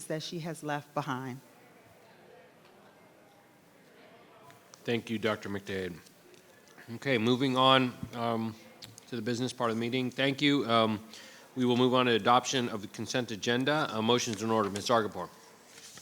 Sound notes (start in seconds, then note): none